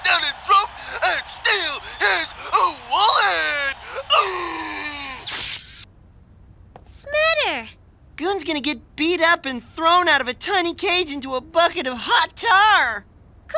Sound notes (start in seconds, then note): 4.2 screaming